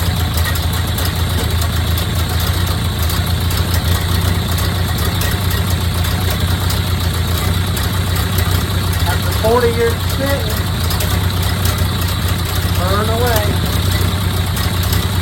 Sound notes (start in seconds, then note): 4.6 engine idling smooth